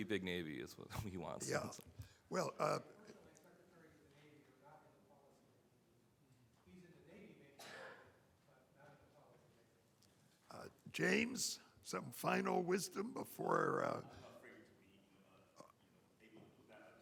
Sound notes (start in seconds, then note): 3.8 admiral chatters